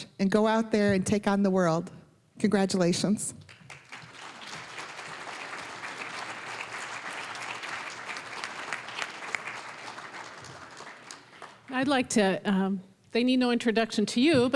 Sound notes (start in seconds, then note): 3.4 applause